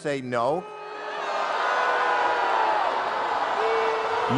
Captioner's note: crowd Boos